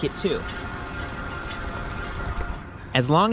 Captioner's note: eBike motor revving